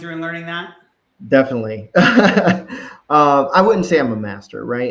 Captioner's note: laughs